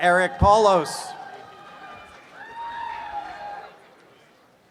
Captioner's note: cheers and applause